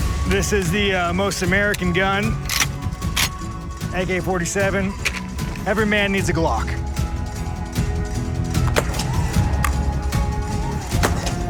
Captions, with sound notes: This is the most American gun. [racks gun] [gun clicks] AK-47. Every man needs a Glock. [Glock firing]